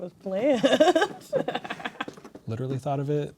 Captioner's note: laughing